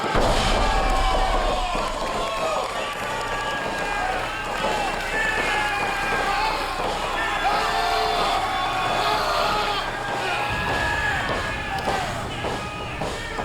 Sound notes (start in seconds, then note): 7.3 screaming; 10.3 crowd clamoring